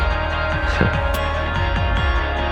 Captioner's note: Max laughs